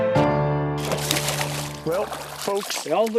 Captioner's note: splashing